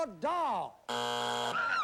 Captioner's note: buzzer